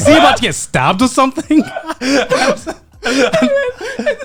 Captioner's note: laughing